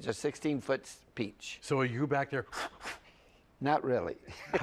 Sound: blowing

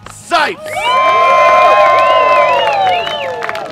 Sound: cheering

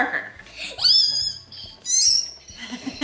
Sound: squealing; giggling

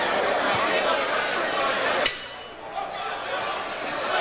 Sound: bell rings to start the 1st round

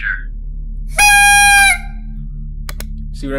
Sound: blows party horn

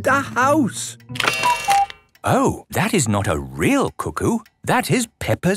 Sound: cuckoo clock

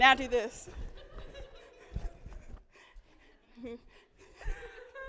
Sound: audience laughing

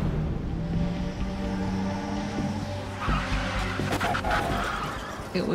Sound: engine revving, tires screeching

